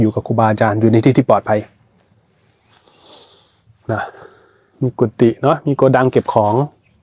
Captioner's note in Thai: เสียงสูดหายใจ